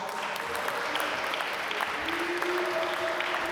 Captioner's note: applause